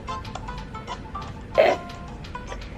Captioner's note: video game music; snorts